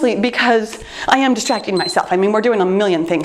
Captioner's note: timer beeps